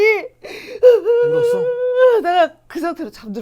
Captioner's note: finally burst into tears